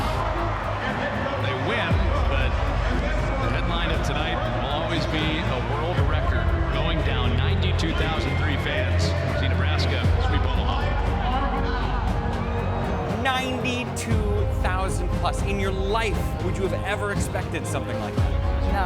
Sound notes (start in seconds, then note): 1.4 cheering